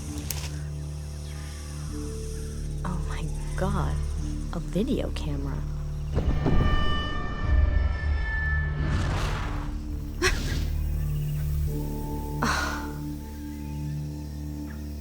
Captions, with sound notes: OH, MY GOD. A VIDEO CAMERA. [ GASPS ] [ SIGHS ]